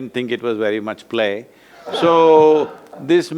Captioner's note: laughs